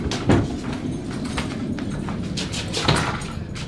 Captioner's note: keys jingling and turning in keyhole